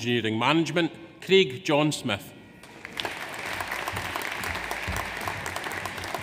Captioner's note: audience applauds